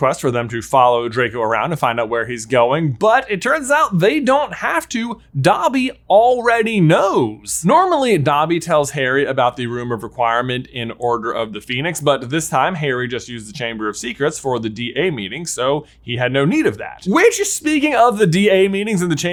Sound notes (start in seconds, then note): none